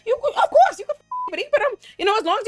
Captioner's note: beep